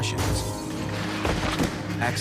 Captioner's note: glass shatters